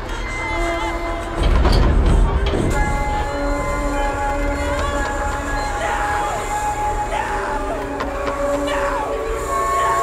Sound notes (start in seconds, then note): 0.9 metal banging